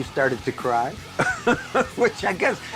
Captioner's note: laughs